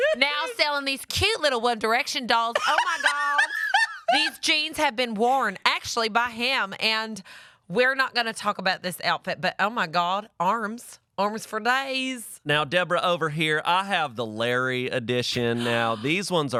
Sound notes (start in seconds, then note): 2.5 laughs